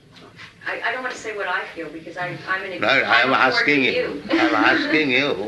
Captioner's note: laughs